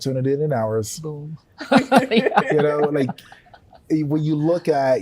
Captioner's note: everyone chuckles